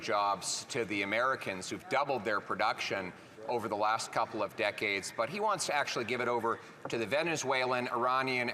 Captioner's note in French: voix de l'interprète